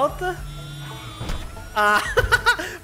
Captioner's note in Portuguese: risos